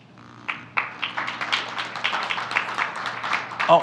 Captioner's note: applause